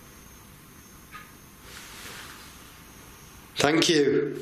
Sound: click

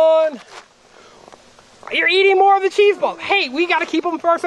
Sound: voiceover

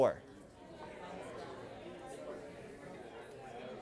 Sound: chatter

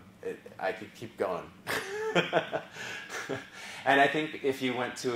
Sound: laugh

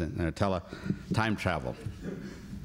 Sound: laughter

